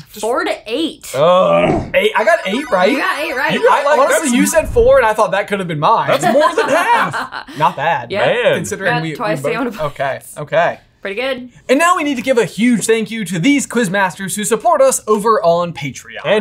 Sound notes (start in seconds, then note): 1.2 groaning; 2.0 electronic twinkling